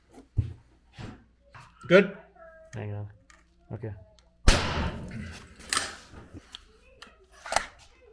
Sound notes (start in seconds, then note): 4.5 banging sound